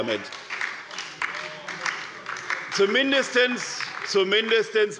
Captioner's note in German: Beifall bei Abgeordneten der SPD und der LINKEN